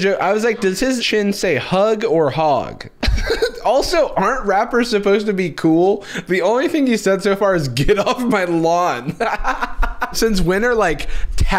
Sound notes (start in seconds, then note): 3.0 laughs; 9.0 laughs harder